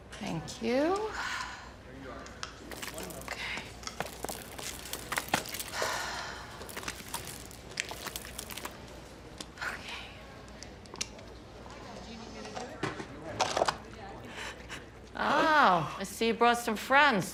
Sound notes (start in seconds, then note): 0.5 indistinct background chatter; 0.6 sighs; 2.4 cast crunching; 5.4 sighs; 13.1 cast pops open; 13.1 gasps